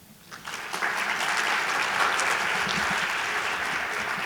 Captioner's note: audience applauding